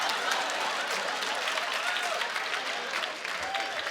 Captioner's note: applause